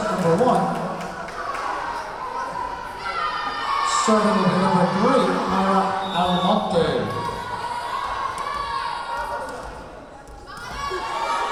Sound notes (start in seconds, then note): 2.2 yelling; 7.4 yelling